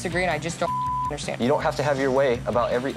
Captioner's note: beep